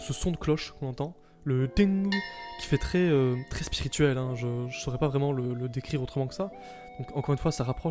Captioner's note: ding